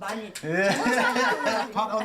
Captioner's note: speaking Korean; chuckles; laughter